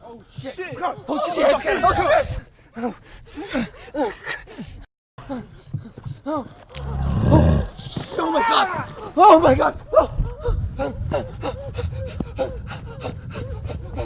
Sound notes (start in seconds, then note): 2.8 gruñe y jadea; 6.7 gruñido de hombre lobo; 11.2 jadeando